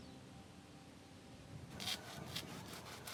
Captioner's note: sawing